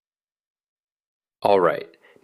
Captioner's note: pause